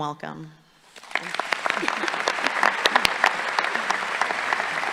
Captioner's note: audience applauding